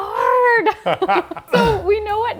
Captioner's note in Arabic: يضحك